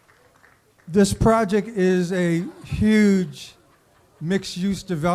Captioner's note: applause